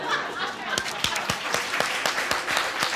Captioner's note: audience laughs; applause